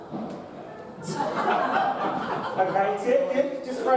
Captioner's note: audience laughs